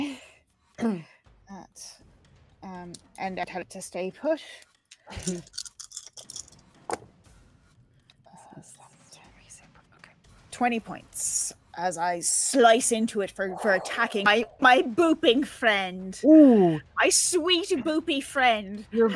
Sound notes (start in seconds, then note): 5.0 dice clatter